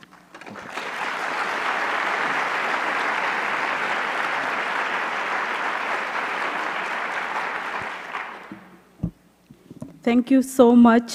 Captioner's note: applause